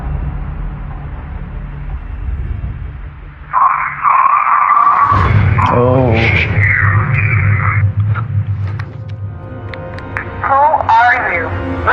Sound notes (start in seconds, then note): 6.2 crarackcklingng r roar r